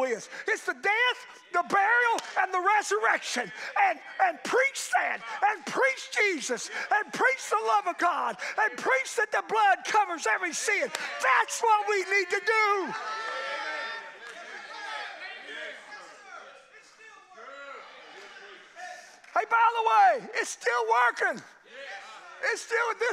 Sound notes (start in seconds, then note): 13.3 congregation cheers